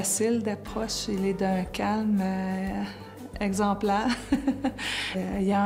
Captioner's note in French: rire